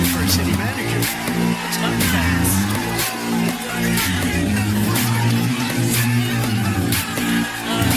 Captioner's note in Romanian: Aplauze